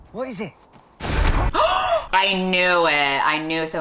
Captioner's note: gasps